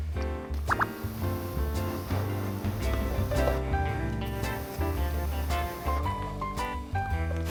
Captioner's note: blowing